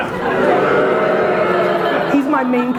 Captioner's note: audience booing; audience laughter